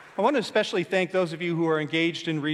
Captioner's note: applause